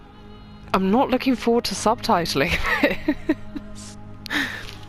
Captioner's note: laughs